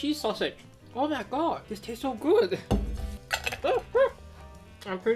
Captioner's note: chuckles